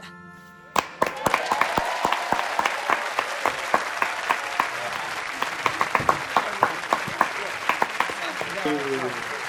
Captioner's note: applause